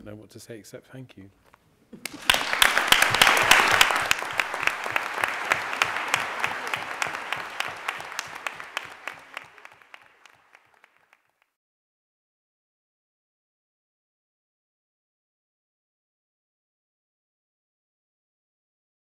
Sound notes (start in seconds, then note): 3.3 audience clapping